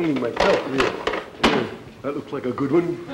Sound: case slamming shut

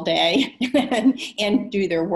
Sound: chuckles

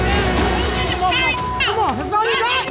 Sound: beep

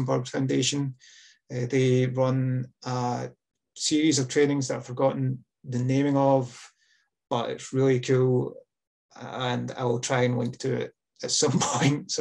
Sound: laughs

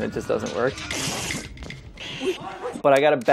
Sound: ripping sound

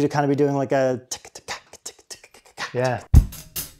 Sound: vocalizes drum ryhthm

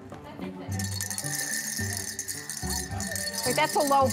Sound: bells ringing

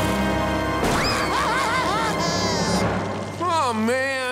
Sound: crying

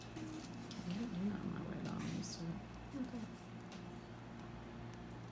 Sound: talk off mic

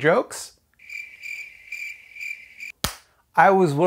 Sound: crickets chirping

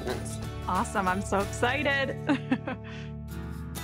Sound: chuckling

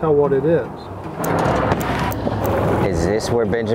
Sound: whirring of picture carousel

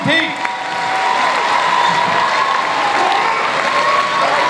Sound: audience cheers

